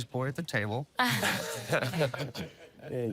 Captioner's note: laughter